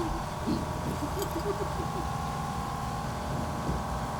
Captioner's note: Hendricks laughs